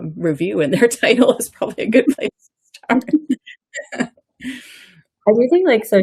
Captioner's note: laughs